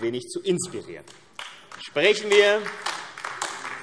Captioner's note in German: Beifall AfD